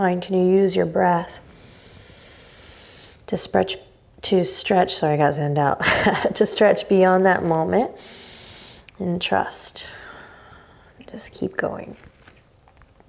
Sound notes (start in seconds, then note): 1.4 inhaling deeply; 5.8 chuckles; 8.0 inhaling deeply